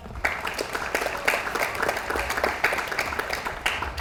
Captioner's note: audience applauds